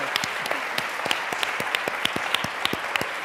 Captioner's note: applause